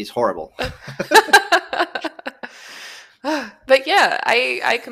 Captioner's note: laughter